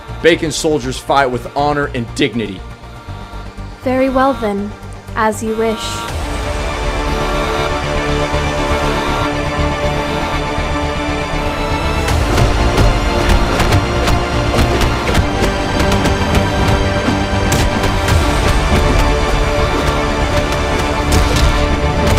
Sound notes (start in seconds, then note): 8.5 alarming sound; 14.7 dramatic upbeat music; 18.4 punching sounds